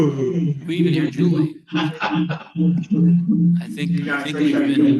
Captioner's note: laughter